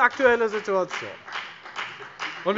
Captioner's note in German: Beifall bei der FDP